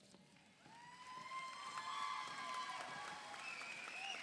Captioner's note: audience applauds